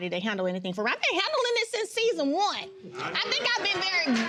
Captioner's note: audience cheering